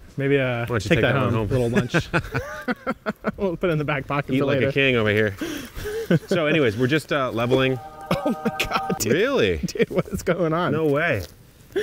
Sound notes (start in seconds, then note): 1.8 both laughing loudly; 8.0 laughing loudly